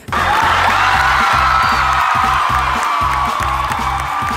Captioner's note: crowd cheers